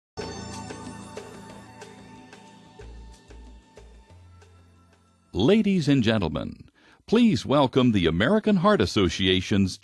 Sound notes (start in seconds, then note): 5.3 voiceover